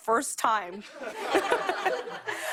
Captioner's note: laughter